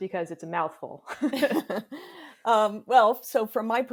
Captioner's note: both chuckle